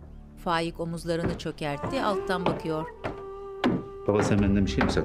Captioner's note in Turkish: Ayak sesi